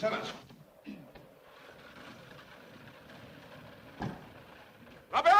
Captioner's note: coach rattles away; wind blows